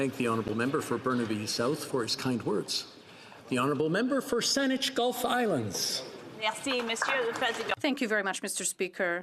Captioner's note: applause